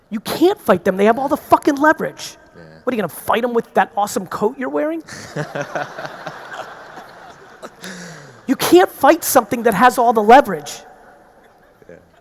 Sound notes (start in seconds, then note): 5.0 laughs; 5.0 audience laughing